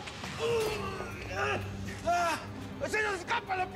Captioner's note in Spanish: quejidos